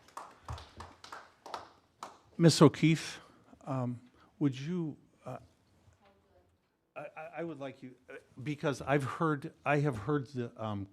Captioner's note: applause